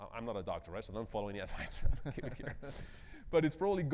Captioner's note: chuckles